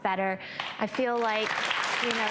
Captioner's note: audience claps